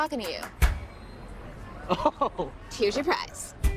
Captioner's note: man laughing